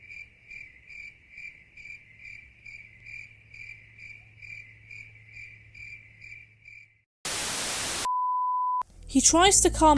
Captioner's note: cricket noises